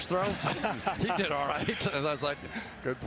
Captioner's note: laughter